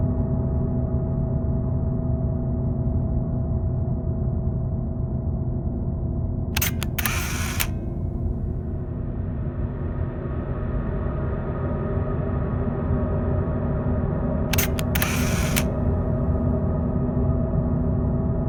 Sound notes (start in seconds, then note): 6.5 camera shutter clicks; 14.5 camera shutter clicks